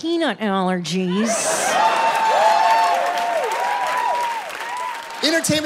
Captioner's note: audience applauds